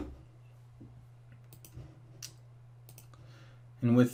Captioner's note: mouse clicking